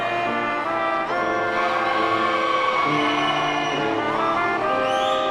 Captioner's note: audience cheering